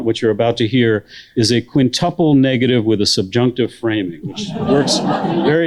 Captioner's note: laughter